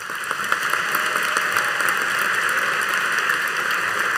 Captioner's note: audience applauding